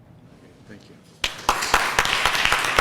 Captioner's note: applause